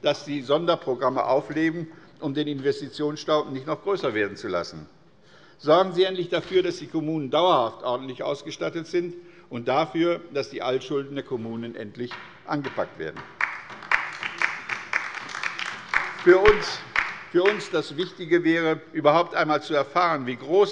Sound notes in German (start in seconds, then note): 13.2 Beifall bei der LINKEN